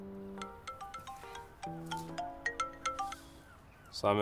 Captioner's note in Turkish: Telefon Çalıyor